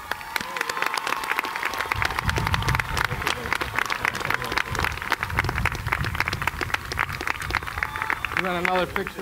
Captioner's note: applause